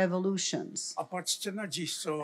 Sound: foreign language

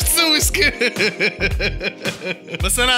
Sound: laughter

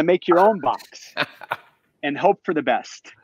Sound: laughs

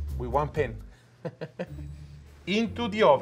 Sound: laughs

